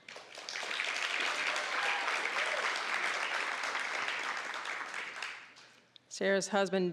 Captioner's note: applause, cheering